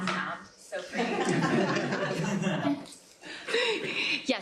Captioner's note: laughter